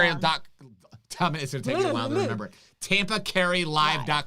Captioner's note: mumbles